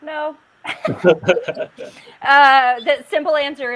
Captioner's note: laughing